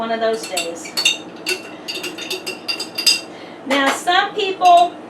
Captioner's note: spoon clinking